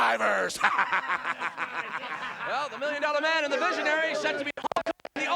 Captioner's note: laugh